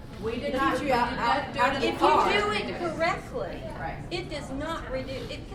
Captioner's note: voiceover